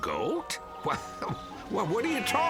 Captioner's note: goat bleating